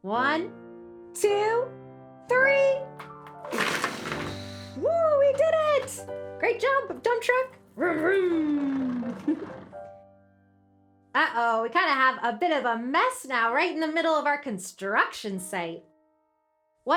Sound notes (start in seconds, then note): 3.0 blocks clattering; 8.0 giggles